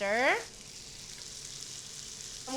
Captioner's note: sizzling